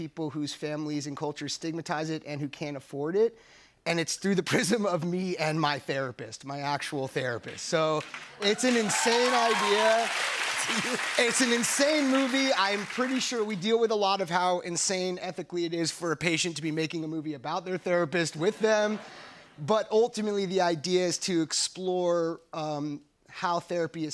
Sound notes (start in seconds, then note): 7.9 cheers and applause; 18.4 laughter